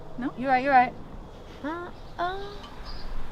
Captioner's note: both vocalizing; birds chirping